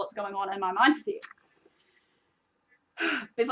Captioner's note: sighs